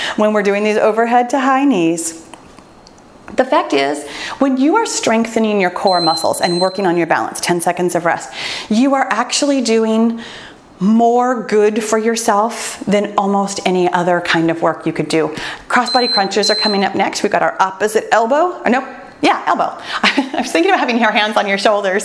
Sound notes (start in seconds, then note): 15.8 timer beeps